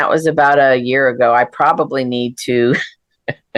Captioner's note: laughs